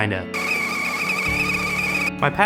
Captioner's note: teakettle screeching